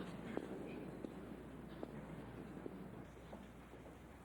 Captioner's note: people chattering; feet clacking